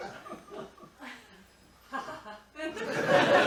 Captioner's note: laughs